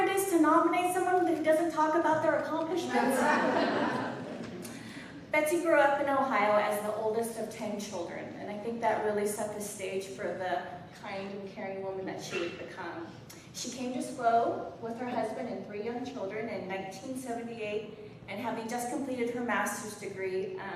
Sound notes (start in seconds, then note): 2.9 laughter